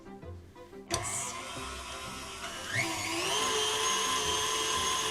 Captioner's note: mixer whirring